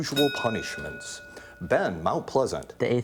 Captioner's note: ding